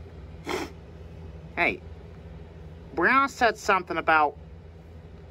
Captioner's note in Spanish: se aclara la nariz